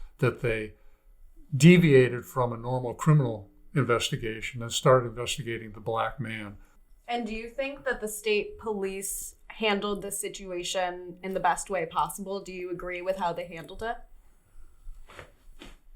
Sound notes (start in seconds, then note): none